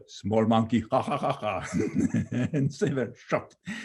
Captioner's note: laughing